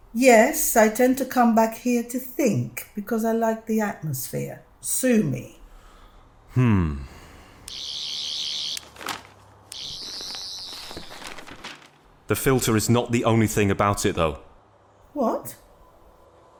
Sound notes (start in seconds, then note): 7.7 sonic screwdriver